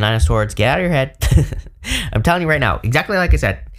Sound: chuckles

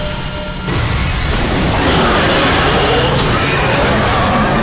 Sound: roaring

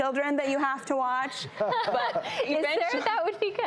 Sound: laughing

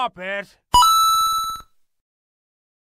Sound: coin sound

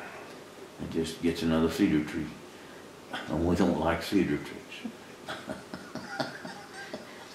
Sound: laughs

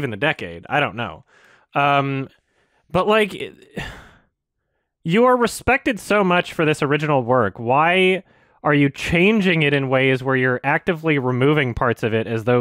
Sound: sigh

